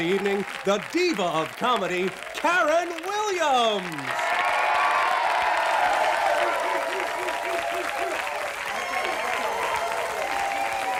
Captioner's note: announcer, over applause; applause, cheers